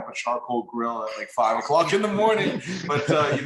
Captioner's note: laughs